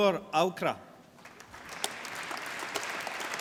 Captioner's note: applause